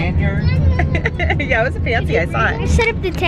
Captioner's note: laughs